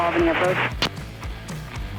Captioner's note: keying radio